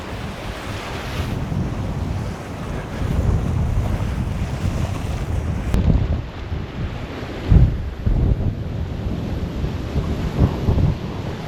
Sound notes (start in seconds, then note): 0.0 sound of Wind and Wawes